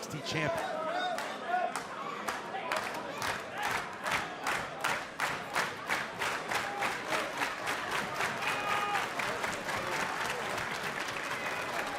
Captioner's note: crowd cheering